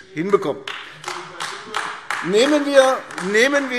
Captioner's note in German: Beifall AfD - Zurufe BÜNDNIS 90/DIE GRÜNEN